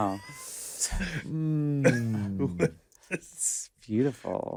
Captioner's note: laughs